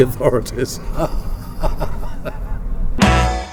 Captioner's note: laughs